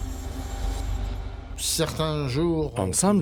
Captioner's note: speaking French